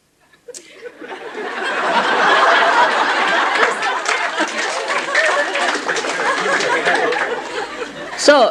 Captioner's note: laughter